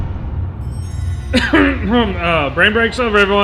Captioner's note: cough of distress